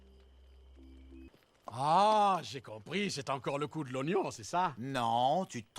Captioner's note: french